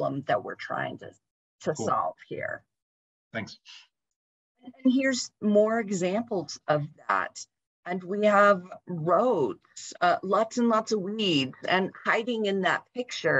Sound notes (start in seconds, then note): 4.9 talking